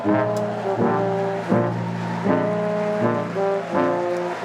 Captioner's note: applause